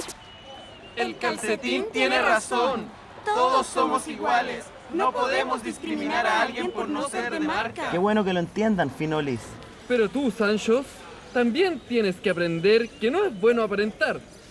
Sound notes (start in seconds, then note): none